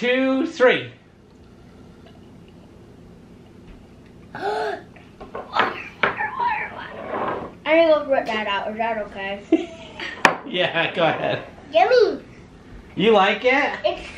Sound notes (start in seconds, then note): 4.3 gasps; 9.5 laughs